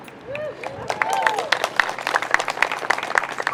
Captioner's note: crowd cheers